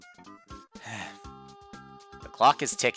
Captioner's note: sigh